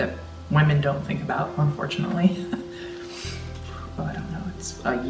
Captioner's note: chuckling